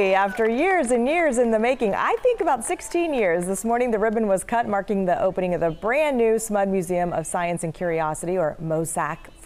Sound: cheers and applause

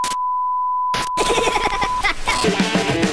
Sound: giggling

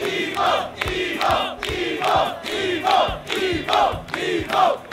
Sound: crowd chanting "EVO! EVO!"

